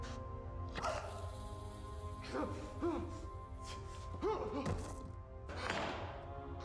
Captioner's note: grunts